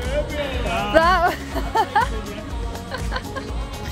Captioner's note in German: Alle lachen